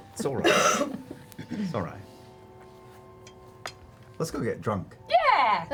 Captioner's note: laughs; whispers